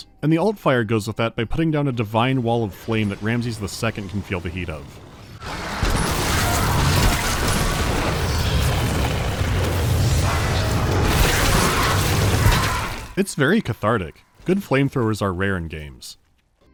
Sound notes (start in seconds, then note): 5.7 roaring flames